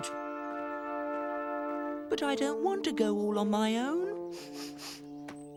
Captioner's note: sniffs